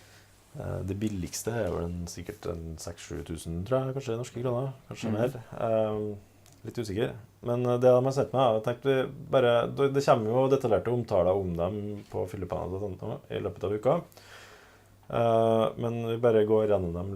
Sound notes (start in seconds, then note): 13.4 in norwegian